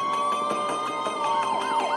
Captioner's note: police sirens blaring